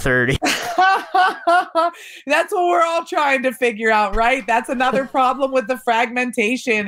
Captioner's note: laughs